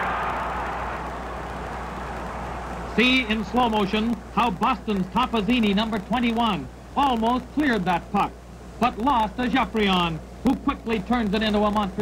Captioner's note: crowd cheers